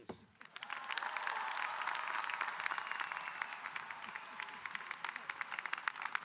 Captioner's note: audience cheering and applauding